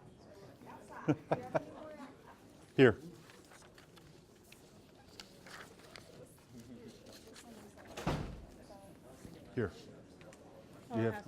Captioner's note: laughs